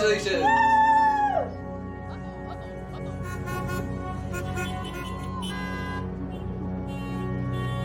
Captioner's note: car horns honking